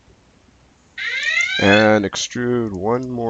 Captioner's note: siren wails